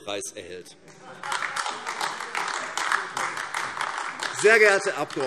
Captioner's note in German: Heiterkeit und Beifall AfD